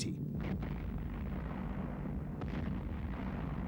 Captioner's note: explosions